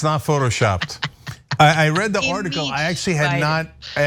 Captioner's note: laugh